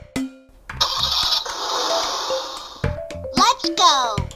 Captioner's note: car ignition rumbling